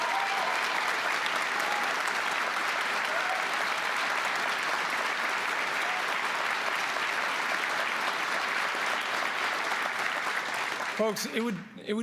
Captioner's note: applause